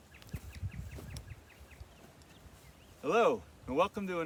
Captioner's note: birds chirping